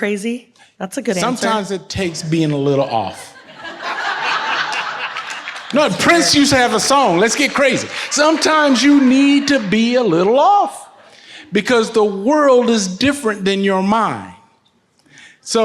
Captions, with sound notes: - You're crazy? That's a good answer. - Sometimes it takes being a little off. (audience laughs) - That's fair. - No, Prince used to have a song, "Let's Get Crazy." Sometimes you need to be a little off because the world is different than your mind.